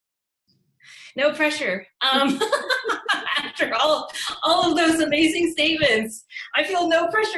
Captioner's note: laughing